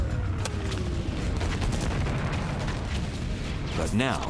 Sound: explosions

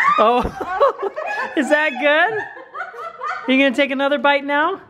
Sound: women laugh

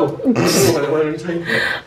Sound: laughs

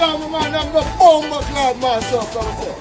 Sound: shouting

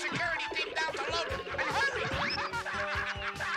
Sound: laughing

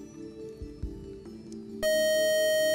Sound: beeping

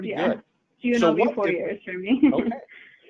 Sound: chuckling

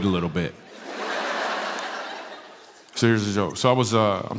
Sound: laughter

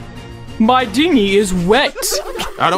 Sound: music stops, voice actors laugh

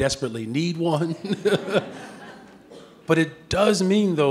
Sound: audience laughing

